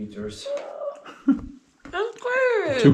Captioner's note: gasps